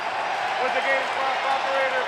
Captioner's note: cheering